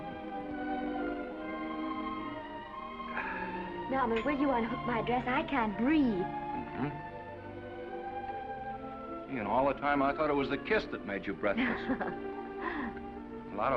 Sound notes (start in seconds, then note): 0.1 gentle music; 3.1 Norman sighs; 11.5 Esther laughs